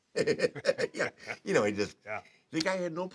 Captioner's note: laugh